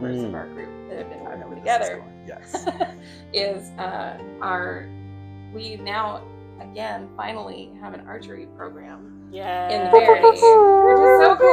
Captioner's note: making air horn sounds